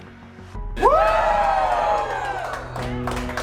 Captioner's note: cheering and applause